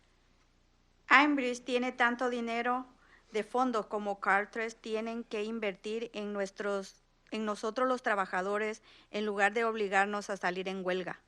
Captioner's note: speaking in Spanish